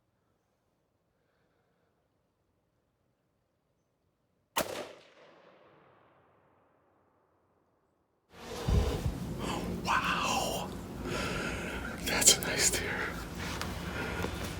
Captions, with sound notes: (gunshot sounds) - Wow, that's a nice deer.